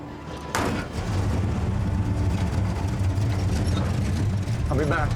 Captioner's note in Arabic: يبدأ المحرك